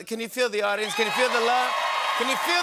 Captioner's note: cheers and applause